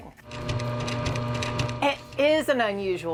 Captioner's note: machine whirring